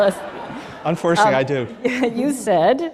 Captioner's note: laughter